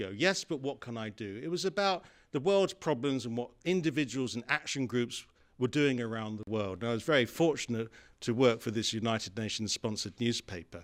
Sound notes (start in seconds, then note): none